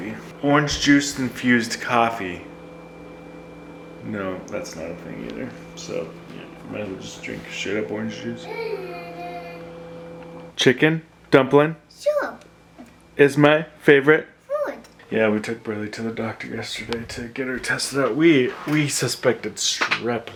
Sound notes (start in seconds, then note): 9.4 backgrond Chatter